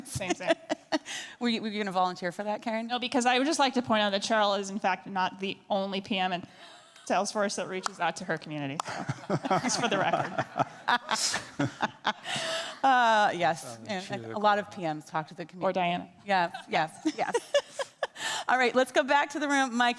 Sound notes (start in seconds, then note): 0.0 laughing; 11.5 group laughing; 13.6 attendee faintly speaks; 16.4 laughing